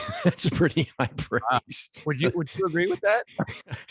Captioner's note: laughs